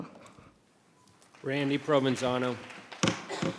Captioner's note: audience applauding